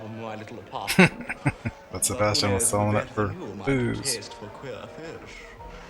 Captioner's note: chuckling